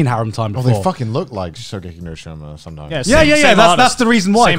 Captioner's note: murmurs